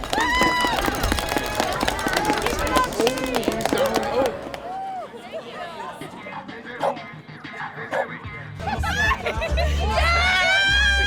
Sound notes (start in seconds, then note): 0.0 crowd cheering; 4.1 bulldog barking